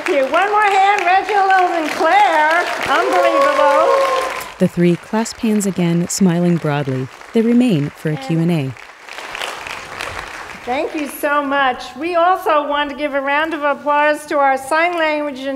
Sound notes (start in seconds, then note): 4.8 applause continues